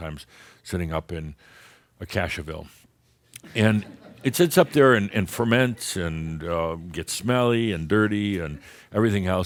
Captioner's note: a few chuckles